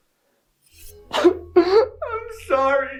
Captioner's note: knife clangs; Greg crying